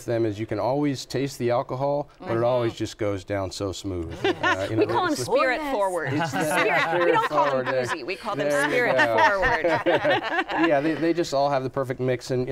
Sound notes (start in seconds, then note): 5.8 laughs; 6.1 laughter